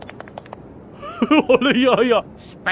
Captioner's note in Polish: śmiech Spejsona